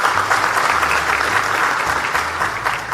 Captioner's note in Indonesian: tepuk tangan